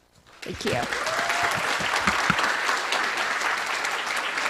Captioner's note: cheering, applause